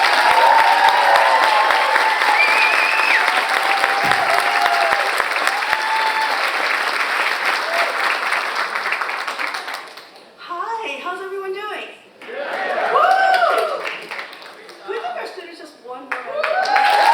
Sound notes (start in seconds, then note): 0.3 audience applause continues; 12.3 audience cheers; 16.1 audience applauds and cheers